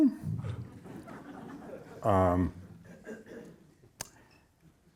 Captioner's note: audience laughing